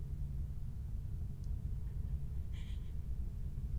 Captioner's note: Casey whimpering